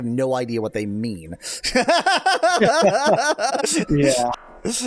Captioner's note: laughs